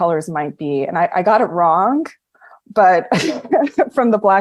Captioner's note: laughs